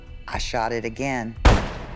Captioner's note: gunshot